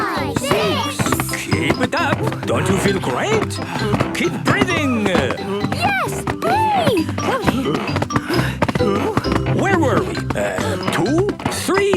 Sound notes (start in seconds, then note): 6.6 panting